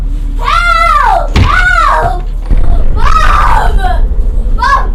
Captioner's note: crying